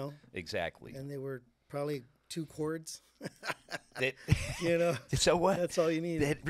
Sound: laughing

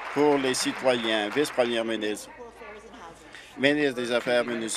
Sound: applause

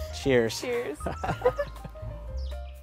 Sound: laugh

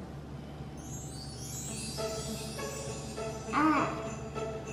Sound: chimes

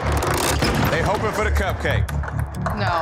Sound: hands clapping; crank whirring; puck clicking

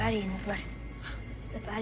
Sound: gasps

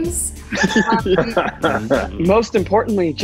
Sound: laughing

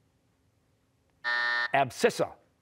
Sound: buzzer

